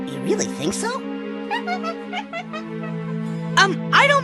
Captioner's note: monkey noises